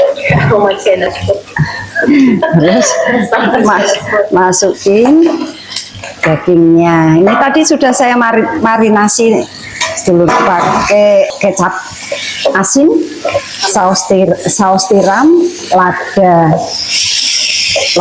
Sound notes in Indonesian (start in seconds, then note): 0.8 tertawa